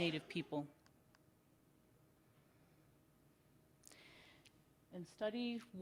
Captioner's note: silence